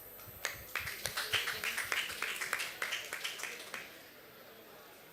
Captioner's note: applause